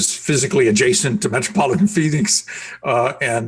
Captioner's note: laughing